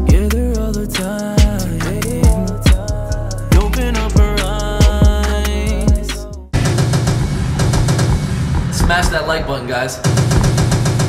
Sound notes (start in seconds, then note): 6.6 automatic gun fires; 10.1 automatic gun fires